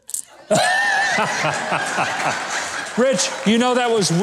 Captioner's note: crowd laughing